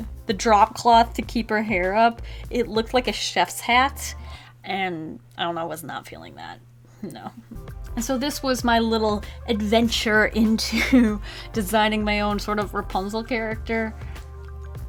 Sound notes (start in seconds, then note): 7.1 chuckles